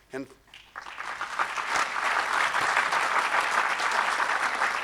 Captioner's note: audience clapping